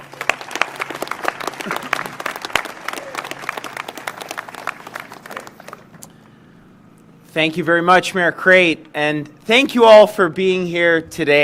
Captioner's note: applause